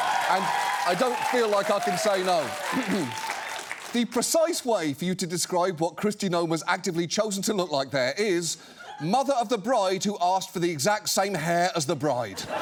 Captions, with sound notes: and I don't feel like I can say no. -(CLEARS THROAT) -(AUDIENCE CHEERS) "The precise way for you to describe what Kristi Noem has actively chosen to look like there is, 'Mother of the bride who asked for the exact same hair as the bride.'